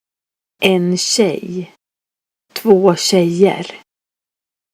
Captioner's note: speaking language for girl